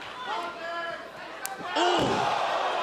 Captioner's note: crowd chatter